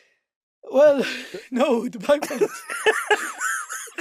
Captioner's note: incoherent giggling